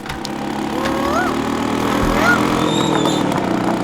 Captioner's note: mimicking cuckoo's voice